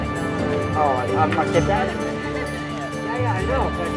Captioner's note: outside chatter